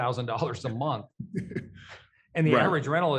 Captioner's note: chuckles